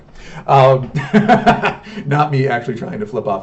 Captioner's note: laughs